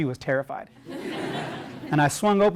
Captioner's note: laugh